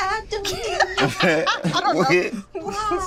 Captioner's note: Teyonah laughs